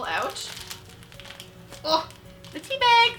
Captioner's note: crinkling